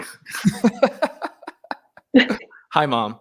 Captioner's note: laughing